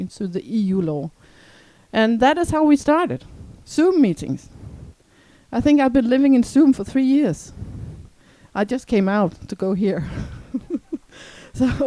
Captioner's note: laugh